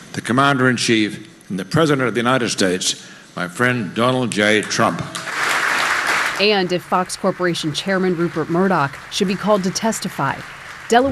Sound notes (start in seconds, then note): 5.0 audience applauding